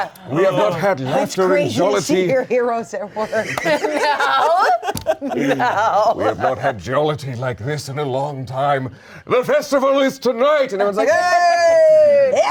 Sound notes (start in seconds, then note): 3.1 all laughing